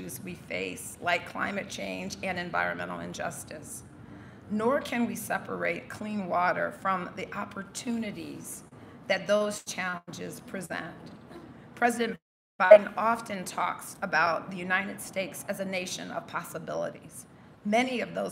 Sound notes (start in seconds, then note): none